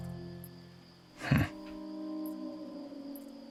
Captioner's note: chuckling